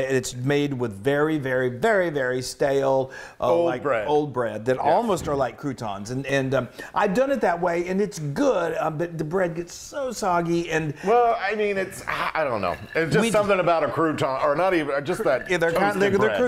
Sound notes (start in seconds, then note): none